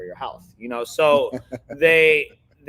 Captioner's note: laughing